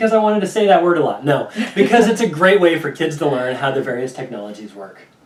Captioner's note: laughing